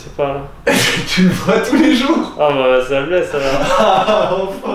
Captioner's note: laughing